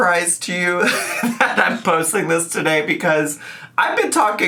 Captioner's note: chuckles